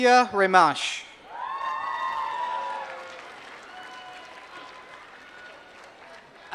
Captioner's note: applause